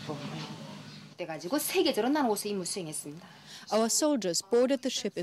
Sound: speaking foreign language

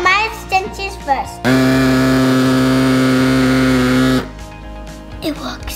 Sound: motor rumbles loudly

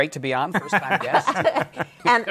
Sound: laughter

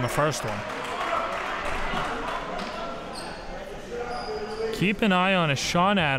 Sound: crowd cheering

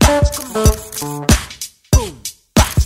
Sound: rhythmic music; camera clicking; rhythmic music

